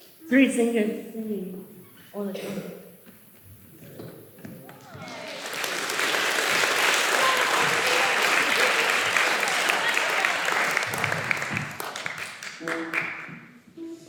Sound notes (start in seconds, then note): 4.7 applause